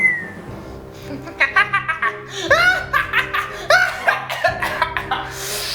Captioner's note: evil Laugh